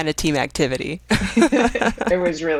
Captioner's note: women laughing